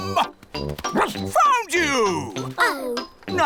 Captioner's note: barks